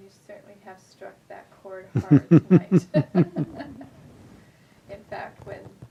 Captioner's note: laughs